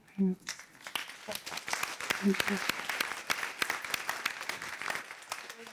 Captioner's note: applause